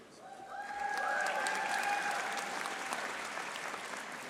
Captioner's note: audience applauding